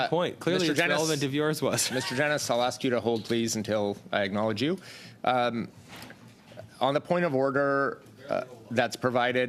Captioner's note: laughter